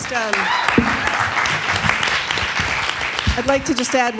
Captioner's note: attendees applauding